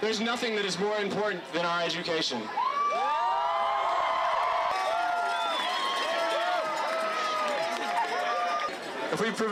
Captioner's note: mass cheering